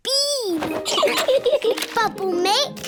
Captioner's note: both laugh